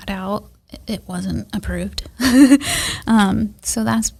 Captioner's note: laughs